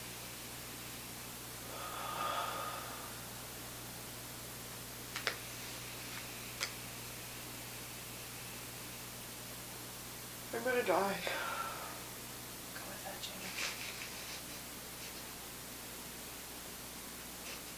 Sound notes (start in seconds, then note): 1.6 both breathing deeply; 6.5 papers rustling; 14.0 sobbing